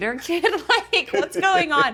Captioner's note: laughing